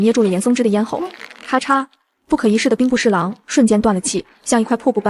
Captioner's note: crack!